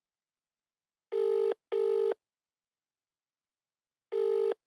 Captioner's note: phone line ringing